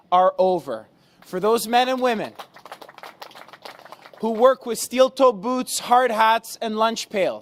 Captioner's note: applause